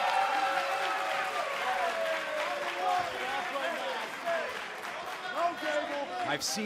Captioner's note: cheers & applause